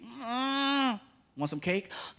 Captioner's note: grunting